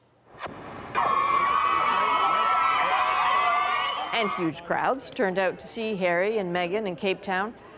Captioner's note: cheers and Applause